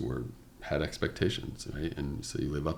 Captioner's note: none